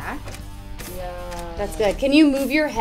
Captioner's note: camera clicking